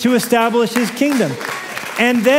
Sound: applause

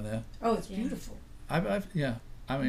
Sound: voiceover

